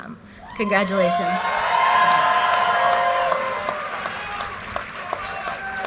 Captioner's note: audience cheers and applause